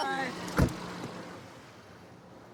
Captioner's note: car door closes